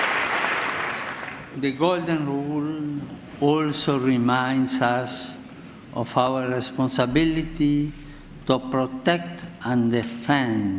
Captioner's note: applause